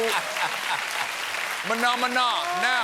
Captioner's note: cheers and applause